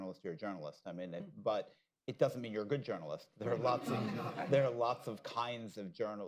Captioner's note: laughter